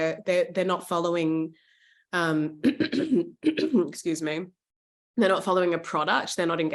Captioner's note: coughs